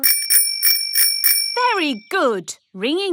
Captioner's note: rings bell